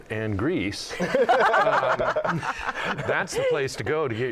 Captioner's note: laughter